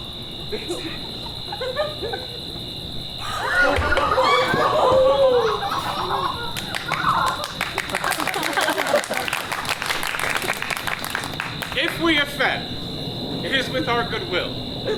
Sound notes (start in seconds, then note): 3.2 audience gasps; 5.9 audience applauds